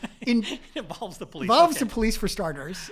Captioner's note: laugh